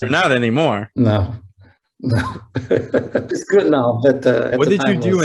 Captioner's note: laughing